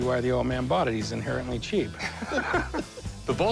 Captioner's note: laughter